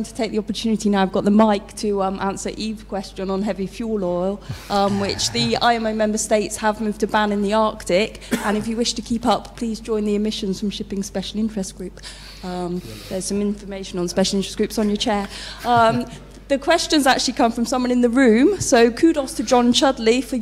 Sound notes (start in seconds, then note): 4.5 laugh